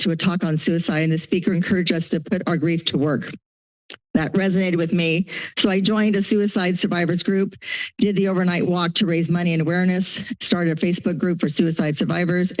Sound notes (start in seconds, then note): 3.9 clicks tongue; 7.6 inhales